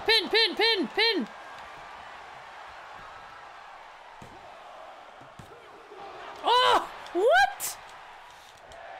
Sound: applause; applause

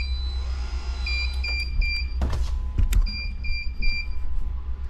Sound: machine beeping; machine whirring

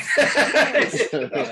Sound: all laugh

